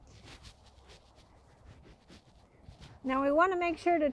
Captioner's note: soil shifting